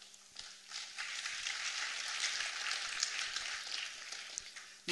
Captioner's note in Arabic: تصفيق